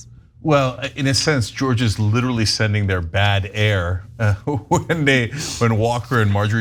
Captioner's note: laugh